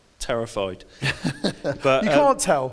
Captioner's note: laughs